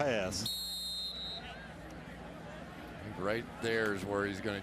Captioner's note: whistle